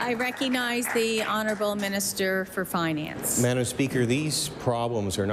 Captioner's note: applause